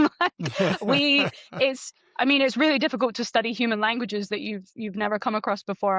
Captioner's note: laughter